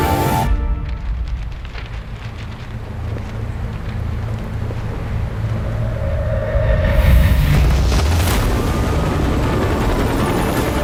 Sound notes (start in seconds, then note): 0.3 music drops out; 1.0 flyers flap; 6.8 roaring of rotors